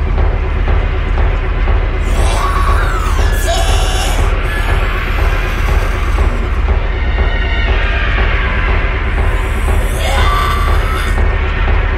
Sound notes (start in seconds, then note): 2.0 roars; 4.5 growls; 9.4 roars